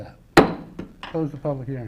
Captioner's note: mayor bangs gavel